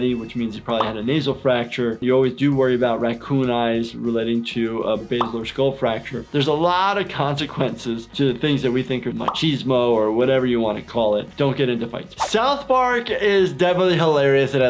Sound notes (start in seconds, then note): none